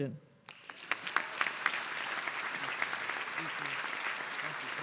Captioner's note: audience cheering